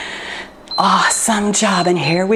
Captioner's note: timer beeps